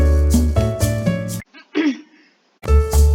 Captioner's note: clears throat of non-existent phlegm